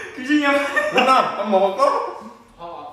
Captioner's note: excited ㅋㅋ